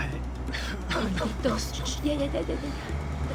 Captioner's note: coughs; speaking spanish